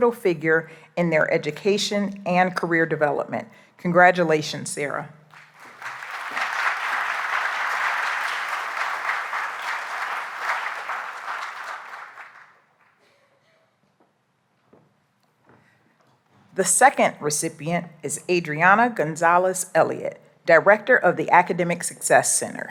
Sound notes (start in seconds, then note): 5.2 applause